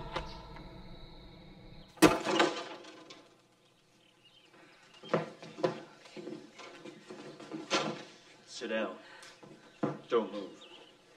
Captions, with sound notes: ( Whispering ) It's Okay. Sit down. Don't move.